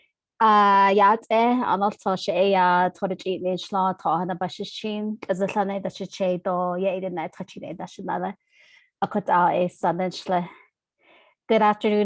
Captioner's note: non-english speech